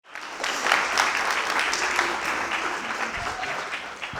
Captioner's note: applause